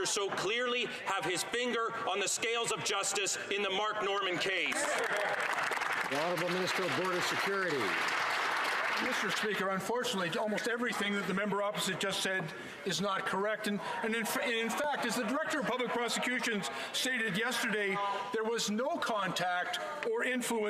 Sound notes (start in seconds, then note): 8.0 some Applause